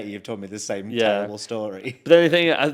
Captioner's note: chuckles